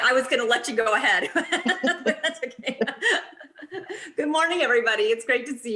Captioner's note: laughter